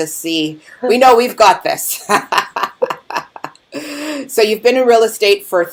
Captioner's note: laughing